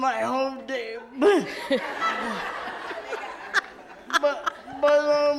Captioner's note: audience laughs